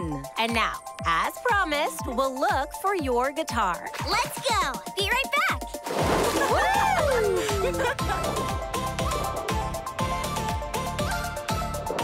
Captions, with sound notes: And now, as promised, we'll look for your guitar. Let's go! Be right back. [laughing] [upbeat music]